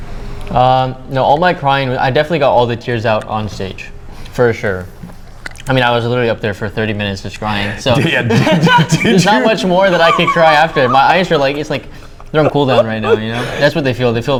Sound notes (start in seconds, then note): 7.7 laugh